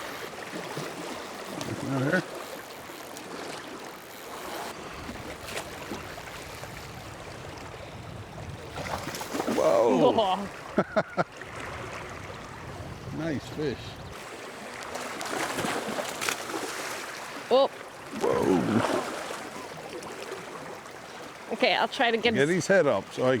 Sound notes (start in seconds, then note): 0.0 water splashing; 1.2 line whining; 6.8 laughing; 11.2 water splashing